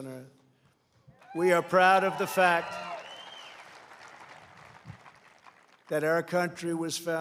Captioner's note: applause